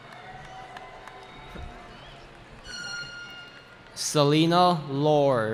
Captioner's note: cheering